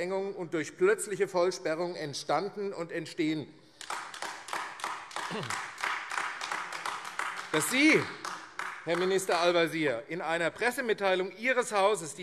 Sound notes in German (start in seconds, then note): 3.7 Beifall AfD